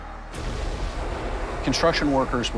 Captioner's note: explosion